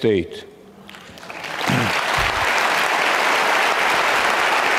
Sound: audience clapping

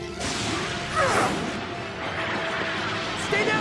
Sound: grunting

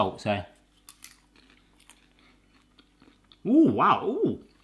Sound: chewing

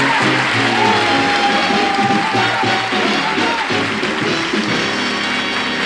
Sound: audience applause; audience laughing

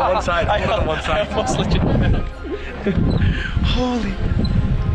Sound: laughing

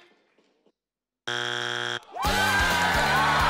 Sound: buzzer rings; family cheering

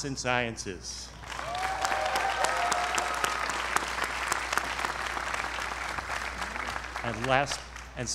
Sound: applause

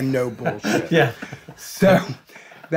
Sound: chuckling

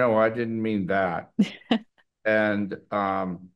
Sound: chuckles

